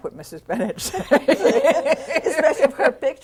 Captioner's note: laughter